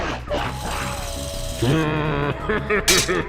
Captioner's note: laughing maniacally